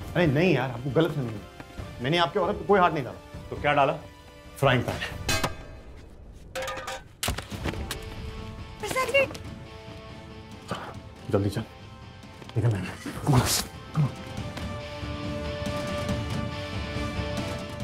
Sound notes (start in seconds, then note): 5.2 banging sound; 7.3 thud on ground